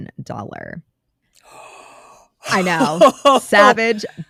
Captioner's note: gasps